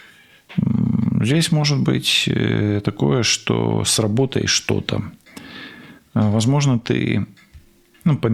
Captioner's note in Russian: откашливается